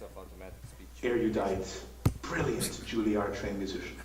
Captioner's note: computerized Voiceover